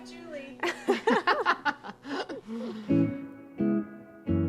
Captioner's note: laughs